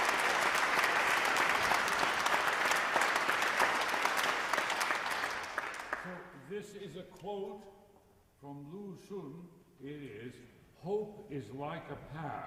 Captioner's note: applause